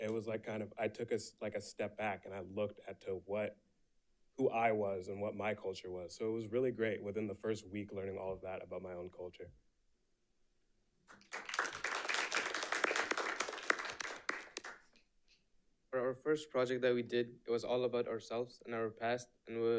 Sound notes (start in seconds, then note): 11.1 audience applauding